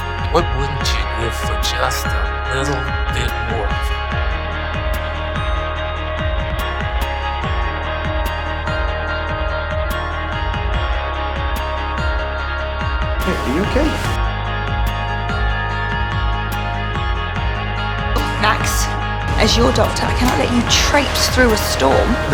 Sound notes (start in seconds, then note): 13.4 voiceover; 18.4 voiceover